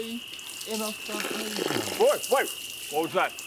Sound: loud piddling noise

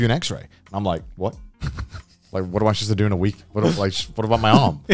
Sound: laughing; laughing

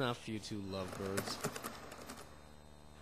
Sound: keyboard typing

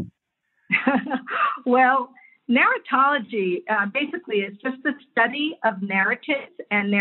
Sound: laugh

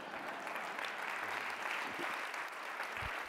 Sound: applause

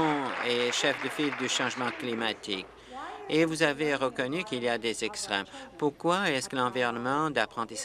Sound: applause

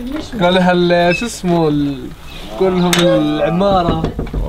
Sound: speaking in Arabic

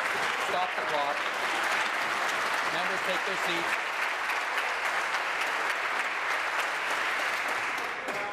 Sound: applause

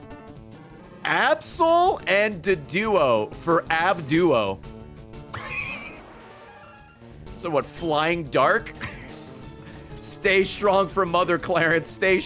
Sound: laughs

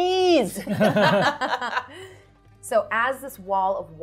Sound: participants laughing

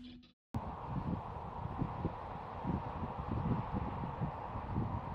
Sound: wind lightly blowing

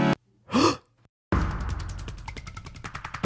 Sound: gasp

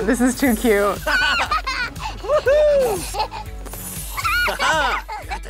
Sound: Hazel giggling

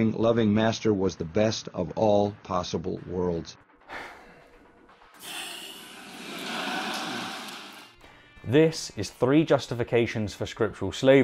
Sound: Peterson sighs

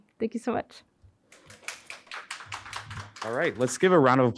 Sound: audience clapping

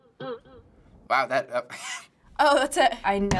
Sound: twanging instrumental; scoffing

